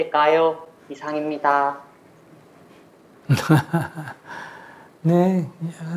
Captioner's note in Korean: 스님 웃음